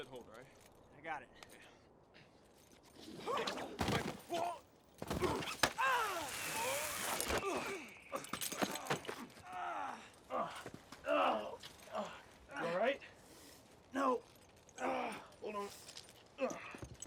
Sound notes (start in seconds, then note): 3.7 thump. . .thump; 5.1 both grunting and groaning; 14.3 wincing